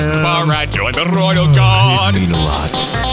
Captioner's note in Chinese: 打哈欠